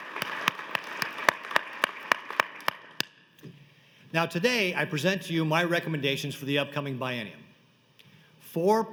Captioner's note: applause